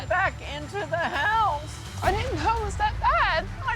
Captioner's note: voice breaking